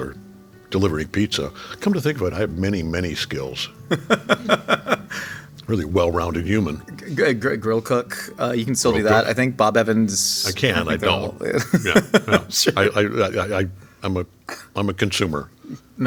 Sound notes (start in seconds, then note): 3.8 laughing; 11.5 laughing